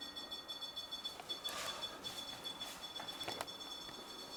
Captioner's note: sigh